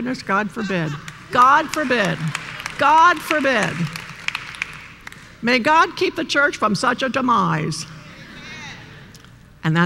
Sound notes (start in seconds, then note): 3.1 applause